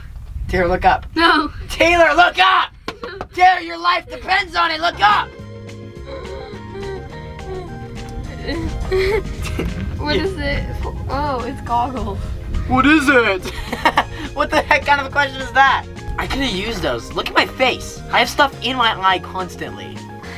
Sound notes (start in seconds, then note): 8.4 panting; 13.4 laughing